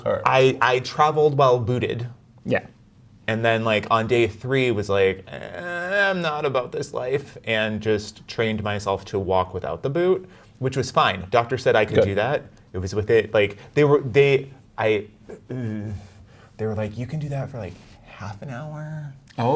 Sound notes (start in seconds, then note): 5.5 groaning